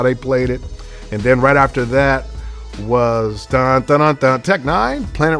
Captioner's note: humming